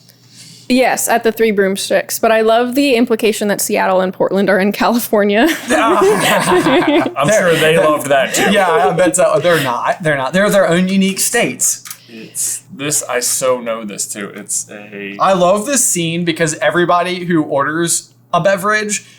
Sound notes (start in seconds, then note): 5.4 laughter